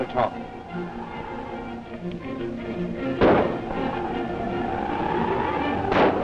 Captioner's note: gunshots